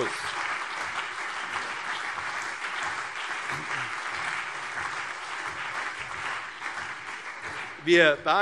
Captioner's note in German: Beifall CDU und BÜNDNIS 90/DIE GRÜNEN